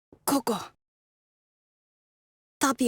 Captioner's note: silence